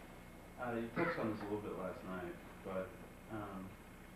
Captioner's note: male Voice